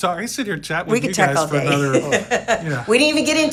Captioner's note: laughs